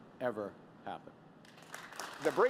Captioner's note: applause